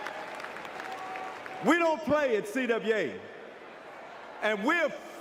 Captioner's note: applause